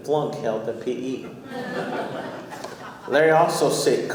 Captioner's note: audience laughing